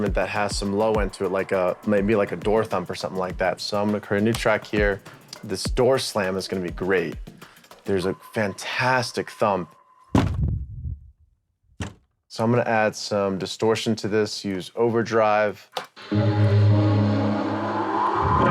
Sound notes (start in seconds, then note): 9.8 door thumps